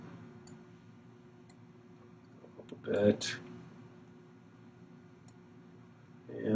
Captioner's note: clicking; clicking